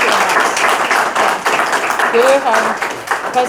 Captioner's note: applause muffles speaker; audience applauding